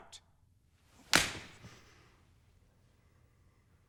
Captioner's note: smack